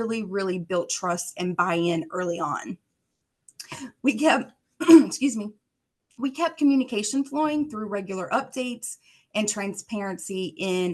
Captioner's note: coughs